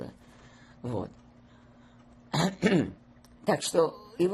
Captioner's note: clears throat